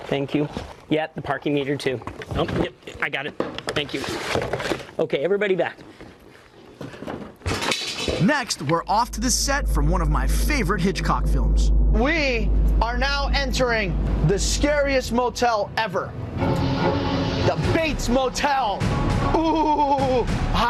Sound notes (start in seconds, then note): 6.8 props clattering; 16.0 scary music